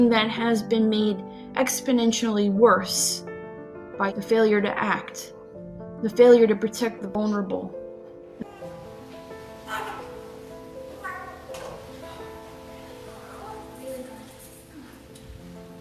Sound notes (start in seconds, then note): 11.0 baby fussing